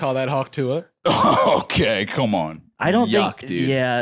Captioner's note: laughing